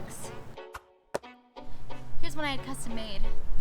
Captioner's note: air whooshes